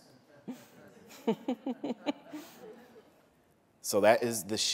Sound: laughter

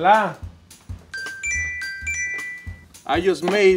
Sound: alarm chimes

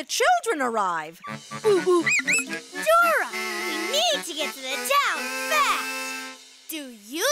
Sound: hooting

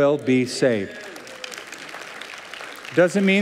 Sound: applause

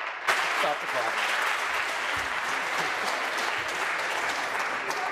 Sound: applause

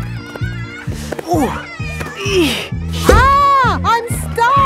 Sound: grunting

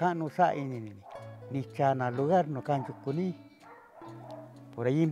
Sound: Speaking Mixtec

